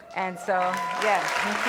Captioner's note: cheering